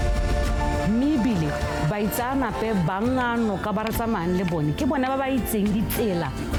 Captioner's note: speaker speaking in foreign language